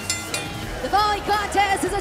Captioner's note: bell